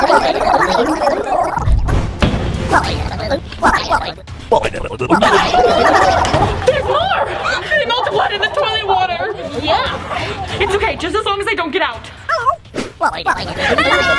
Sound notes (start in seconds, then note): 2.0 germs gibbering; 5.2 sisters screaming; 12.2 germs gibbering